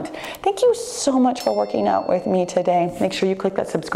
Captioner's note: ding